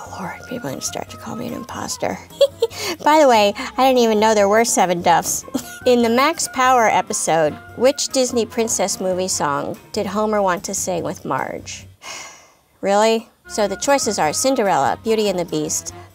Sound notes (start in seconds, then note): 2.2 giggling; 12.0 sighing